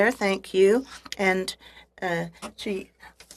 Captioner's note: speaking french